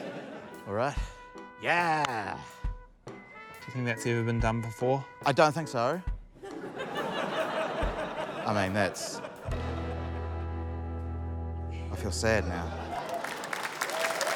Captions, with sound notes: All right. Yeah! - You think that's ever been done before? - I don't think so. - (LAUGHTER) - I mean, that's... - I feel sad now. - (APPLAUSE)